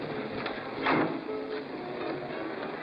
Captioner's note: faint music plays; door closes; faint music plays